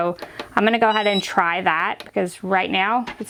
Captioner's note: beeps